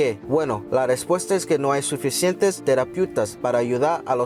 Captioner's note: speaking Spanish